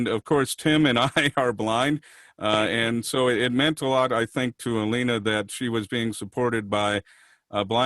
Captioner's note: chuckling